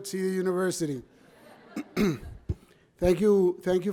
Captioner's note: audience laughs